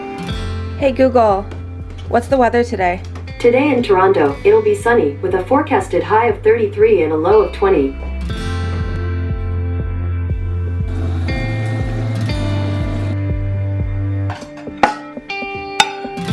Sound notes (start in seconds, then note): 10.6 running Tap Water sound; 14.3 clanging Plates